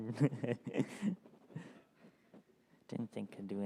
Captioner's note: laughs